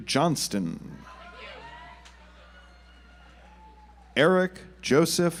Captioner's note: audience applauds